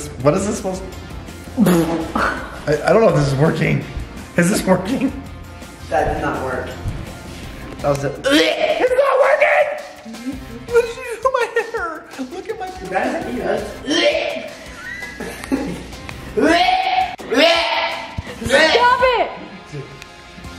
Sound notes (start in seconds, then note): 1.0 exhales; 8.3 retches; 14.1 retches; 20.3 upbeat music